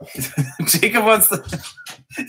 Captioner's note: laugh